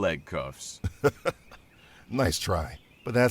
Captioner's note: laughs